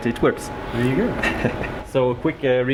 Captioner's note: laughs